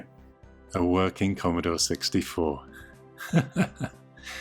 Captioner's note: laughter